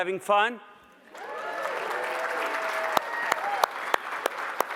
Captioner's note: audience cheers; applauds